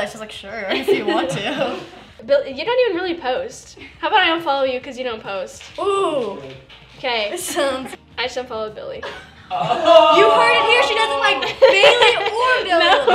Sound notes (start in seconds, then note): 9.0 laughter and "Ooh"s